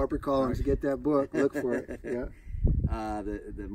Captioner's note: Maurice laughs